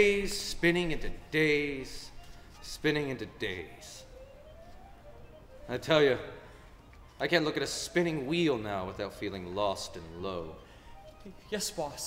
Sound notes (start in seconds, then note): none